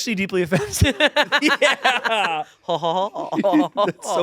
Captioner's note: laughs; imitates laughing